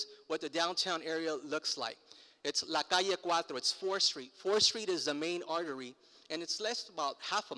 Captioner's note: foreign language